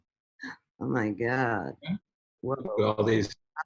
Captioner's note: gasps